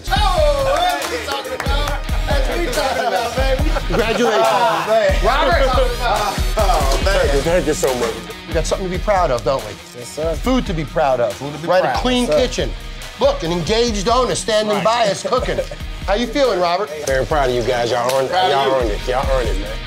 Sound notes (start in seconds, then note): 0.0 cheers; 2.1 laughter